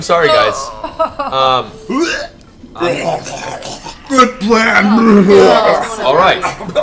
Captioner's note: vomiting noise